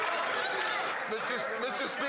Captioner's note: some Applause